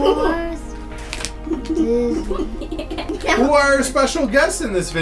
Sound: laughing

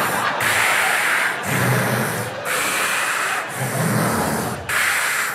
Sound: deep low airy breaths; industrial breathing sounds

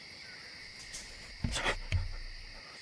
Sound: distant squeaking; branch snaps closer

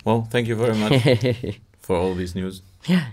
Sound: laughs

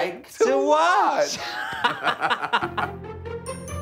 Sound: laughing; glamorous music

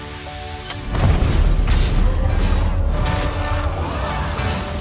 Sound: suspenseful music builds; crashing, clanging

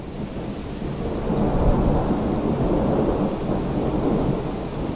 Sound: rain pouring down

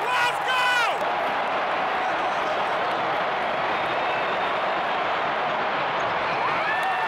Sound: crowd noise

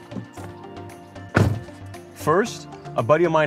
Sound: car door thuds

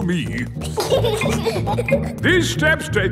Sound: giggling

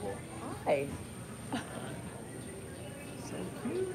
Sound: laughs

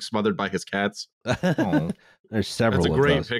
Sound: laughs

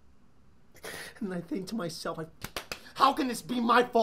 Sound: slaps face

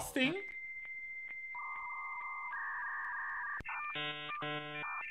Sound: internet dial up tone

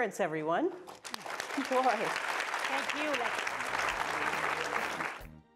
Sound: audience applauding

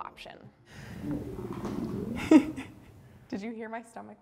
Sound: laughs

